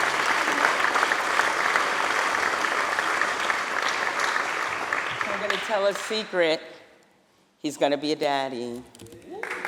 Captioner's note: applause